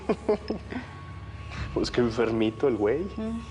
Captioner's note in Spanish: Risas